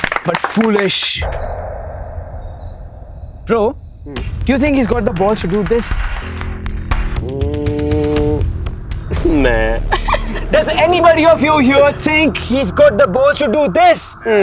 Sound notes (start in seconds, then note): 9.8 Laughs